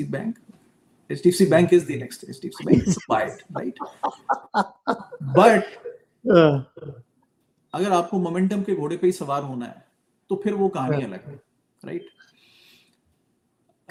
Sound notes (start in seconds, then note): 2.6 laughter